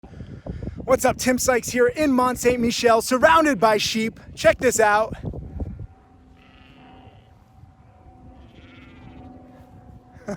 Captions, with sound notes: - What's up, Tim Sykes here in Mont Saint-Michel surrounded by sheep. Check this out. (sheep baaing)